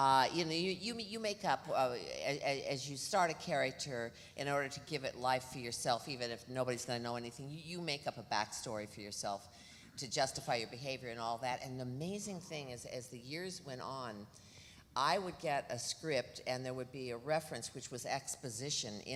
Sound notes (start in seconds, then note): none